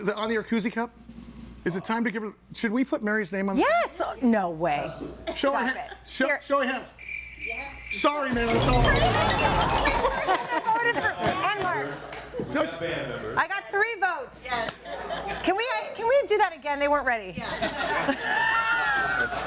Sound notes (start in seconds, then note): 6.8 crickets chirping; 14.8 audience laughing; 17.5 audience laughing